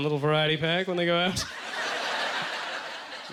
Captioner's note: audience laughter